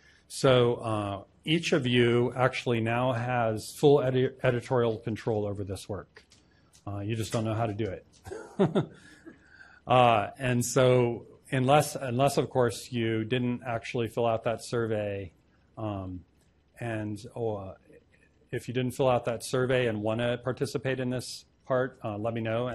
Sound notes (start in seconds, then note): 8.2 laughs